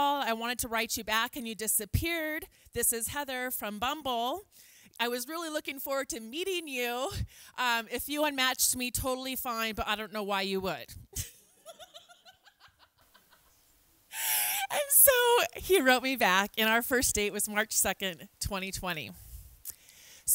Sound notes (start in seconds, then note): 11.7 laughs